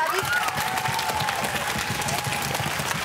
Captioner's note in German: Applaus